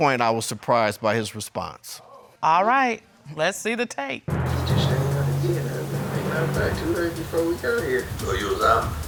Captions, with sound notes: And at this point I was surprised by his response. All right, let's see the tape. (RECORDING PLAYS)